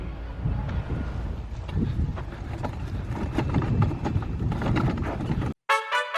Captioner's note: wheelbarrow rolling